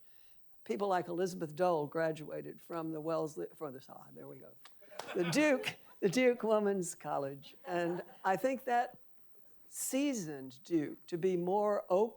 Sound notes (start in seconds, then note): 4.9 audience laughing